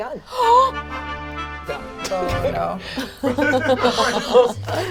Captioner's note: gasps excitedly